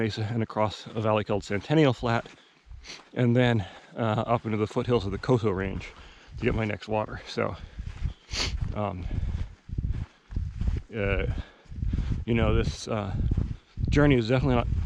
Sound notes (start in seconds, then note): 8.2 sniffing; 8.7 footsteps thumping